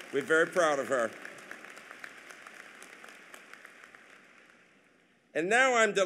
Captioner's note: applause